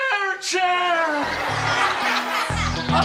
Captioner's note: students laughing; upbeat music